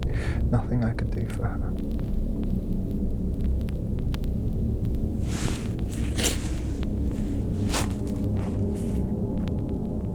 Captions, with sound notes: Nothing I could do for her. (leaves rustling)